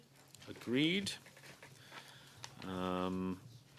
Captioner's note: speaking French